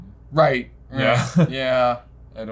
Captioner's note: chuckles